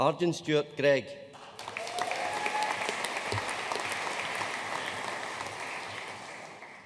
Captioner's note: audience cheering and applauding